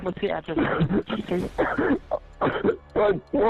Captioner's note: sobs